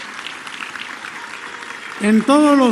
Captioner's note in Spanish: aplausos